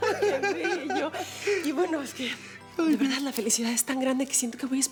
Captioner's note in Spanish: Risas